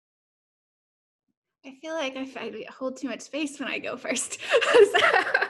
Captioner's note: laughing